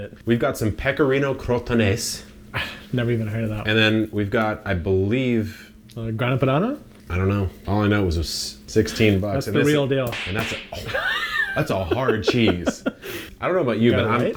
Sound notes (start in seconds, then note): 10.2 cheese slapping; 10.7 laughing